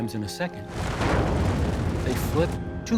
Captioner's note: explosion